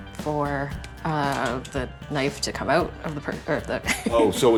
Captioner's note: laughs